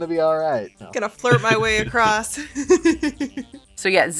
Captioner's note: chuckles